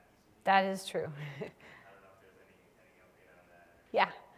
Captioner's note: laugh